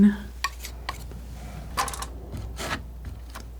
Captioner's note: tapping